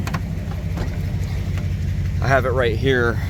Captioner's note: door opens